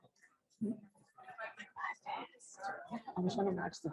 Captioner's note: whispering